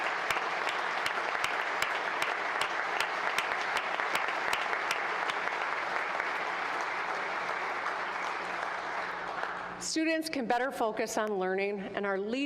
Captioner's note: applause